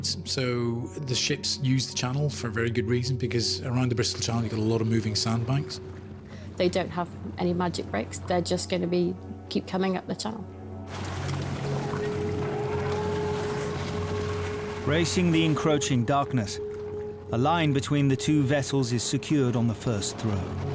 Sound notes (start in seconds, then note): 10.8 boat engine revving